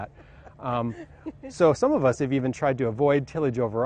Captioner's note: laughs